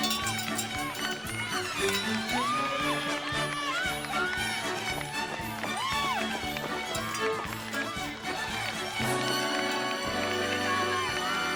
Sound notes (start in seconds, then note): 0.0 bell ringing; 4.2 cheering and applause